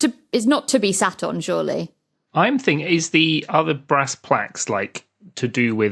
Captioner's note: none